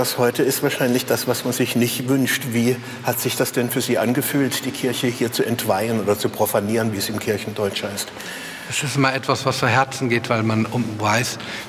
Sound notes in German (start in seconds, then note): none